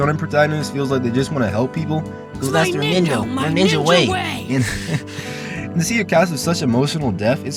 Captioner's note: laughs